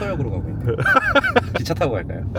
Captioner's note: laughs